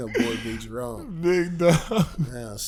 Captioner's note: laughing; laughs